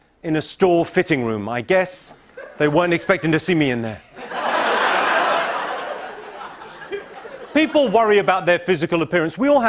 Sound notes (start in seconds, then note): 3.9 laughter